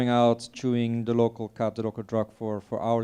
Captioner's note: speaking in foreign language